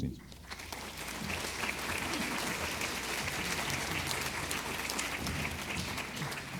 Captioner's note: applause